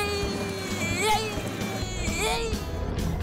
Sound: screaming; giggling

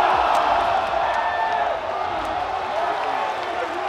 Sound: crowd cheering

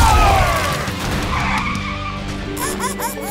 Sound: screeching; squeaking

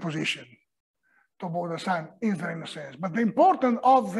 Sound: italian

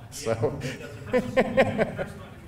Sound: laughing

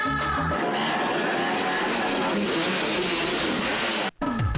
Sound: motorcycle engine revving

